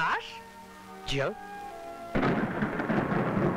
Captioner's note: Thunder rumbling